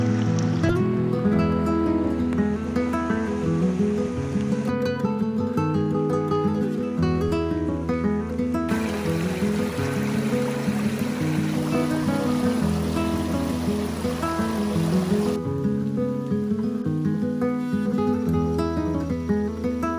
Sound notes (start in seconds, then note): 1.3 gentle music continues; 8.6 stream running; 16.4 gentle music continues